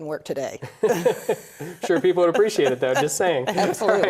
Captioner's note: laughter